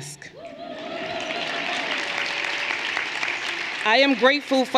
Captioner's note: everyone cheering and applauding